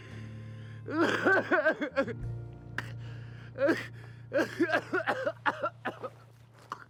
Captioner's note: crying and coughing